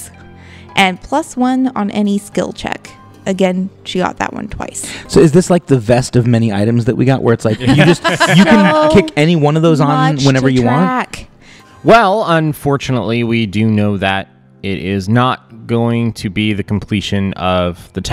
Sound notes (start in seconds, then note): 7.5 laughter